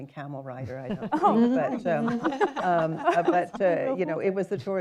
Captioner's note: laughter